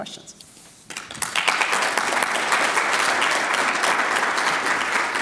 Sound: audience clapping

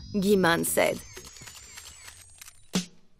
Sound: cameras clicking

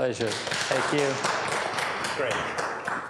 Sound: applause

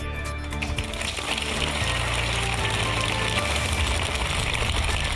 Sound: applause

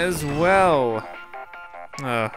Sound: cartoony digital ringtone; voiceover

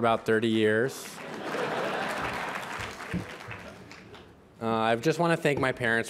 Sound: laughter

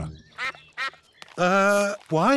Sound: sucks quacking

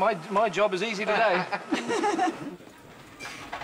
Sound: man and woman laughing

